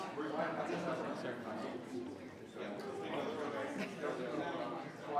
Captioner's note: group quietly conversing